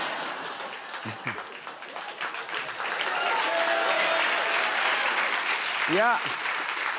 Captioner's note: cheers and applause